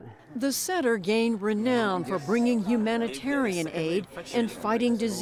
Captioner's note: voice-over